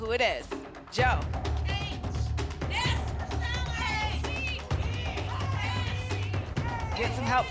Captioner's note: audience shouting letters